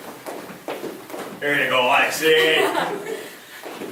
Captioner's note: laughing